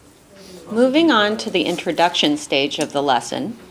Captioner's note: voiceover